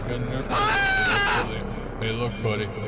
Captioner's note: scream